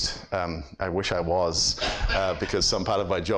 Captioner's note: audience laughs